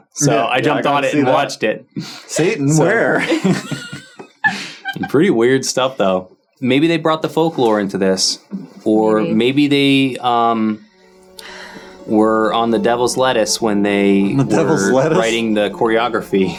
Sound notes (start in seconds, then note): 2.5 laughing; 10.3 rhythmic music